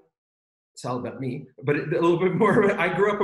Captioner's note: laughs